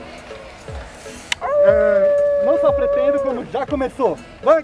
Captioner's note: howls